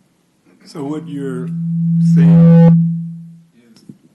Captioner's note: microphone feedback